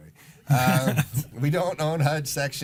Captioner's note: laughing